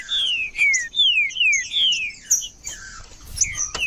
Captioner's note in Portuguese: trinca ferro cantando